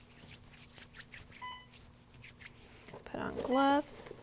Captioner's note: Alaris pump beeps